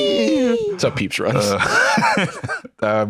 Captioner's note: laughs